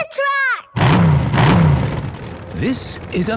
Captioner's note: engines revving